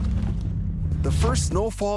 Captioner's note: sirens wailing